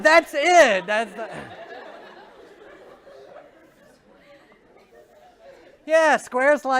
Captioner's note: laughter